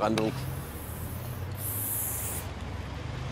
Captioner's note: traffic noise